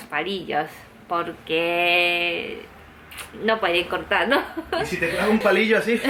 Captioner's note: giggles